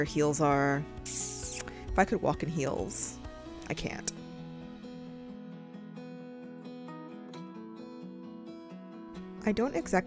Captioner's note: jamaican teeth suck noise